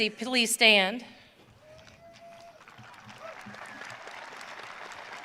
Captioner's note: audience cheering